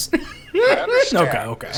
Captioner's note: laughing